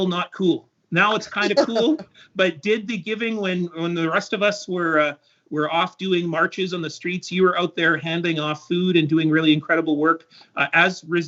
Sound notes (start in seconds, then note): 1.4 laughter